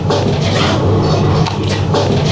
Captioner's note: scraping noise